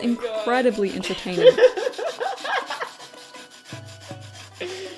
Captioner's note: laughs